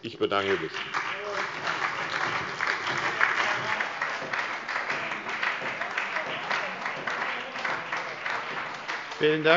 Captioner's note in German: Beifall bei der SPD